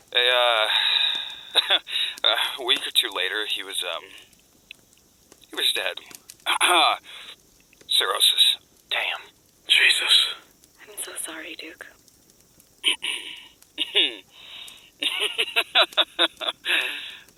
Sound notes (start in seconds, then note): 0.6 sigh; 1.5 cough; 6.4 clears throat; 13.8 clears throat; 15.0 chuckling; 16.6 inhale